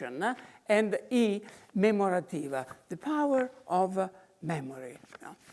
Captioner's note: in foreign language